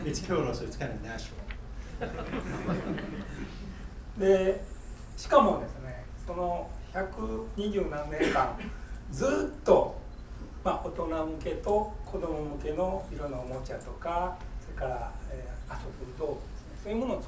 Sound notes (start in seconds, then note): 1.9 students laughing; 4.3 speaking in foreign language; 8.1 coughing